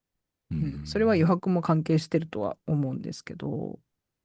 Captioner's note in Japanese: 咳払い